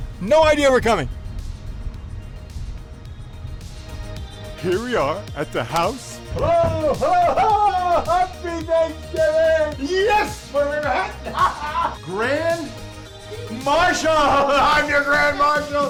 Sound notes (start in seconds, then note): 3.7 uptempo synth music; 6.3 Mayor Tennity knocks; 10.2 laughs